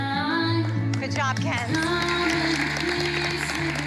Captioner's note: applause